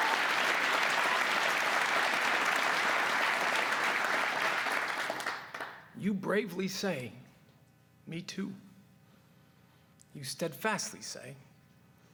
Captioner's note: cheers and applause